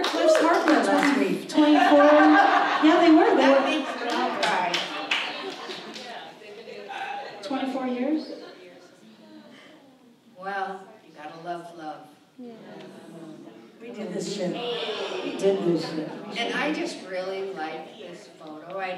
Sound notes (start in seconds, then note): 0.0 applause; 1.5 audience laughs